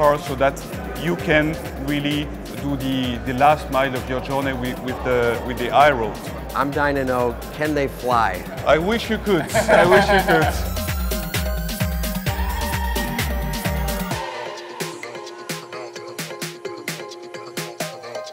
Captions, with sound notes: so that you can really do the last mile of your journey with the i-Road. I'm dying to know, can they fly? I wish you could. (laughing) I wish it could. (upbeat music)